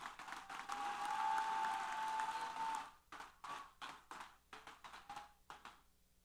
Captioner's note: applause & Cheers